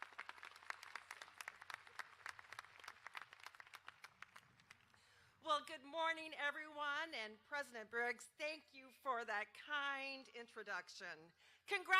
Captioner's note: applause